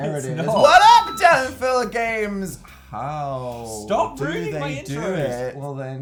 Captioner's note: shrieking